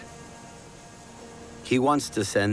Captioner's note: hiss of sea spray